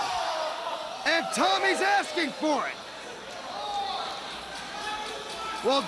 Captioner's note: crowd cheering